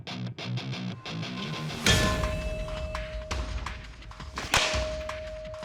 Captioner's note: clanging